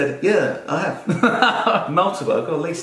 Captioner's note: laughing